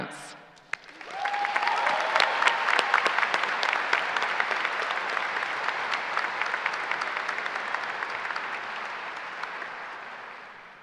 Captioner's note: applause